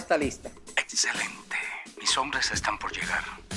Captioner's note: walkie talkie voice sound